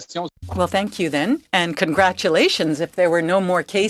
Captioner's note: speaking in French